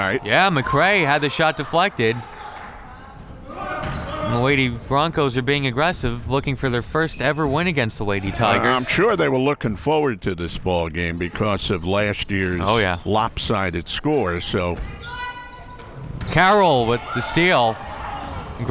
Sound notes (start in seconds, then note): 2.9 crowd members shouting